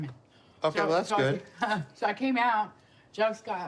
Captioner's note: laughs